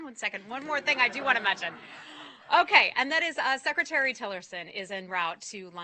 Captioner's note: laughter